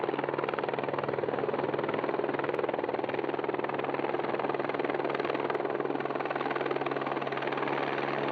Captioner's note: sound of a helicopter